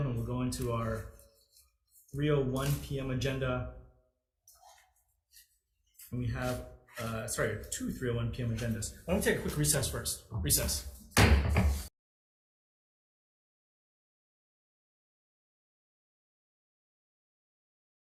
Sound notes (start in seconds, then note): 11.1 gavel bangs; 12.1 silence